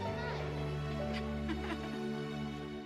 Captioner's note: laughs